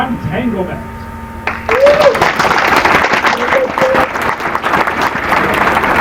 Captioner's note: applause